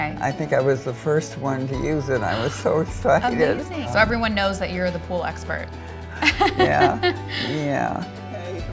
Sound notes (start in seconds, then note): 6.2 laughs